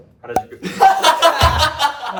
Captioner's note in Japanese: 笑い声